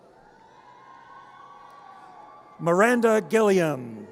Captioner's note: audience cheers